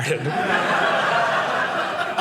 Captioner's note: audience laughing